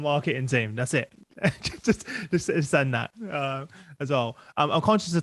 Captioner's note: laughs